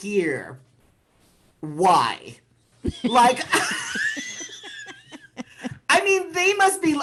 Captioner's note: laughter